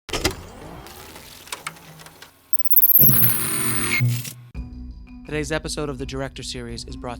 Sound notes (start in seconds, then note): 0.3 projector whirring